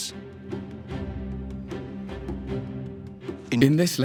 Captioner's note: speaking German